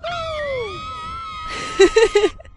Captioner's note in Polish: krzyk przerażenia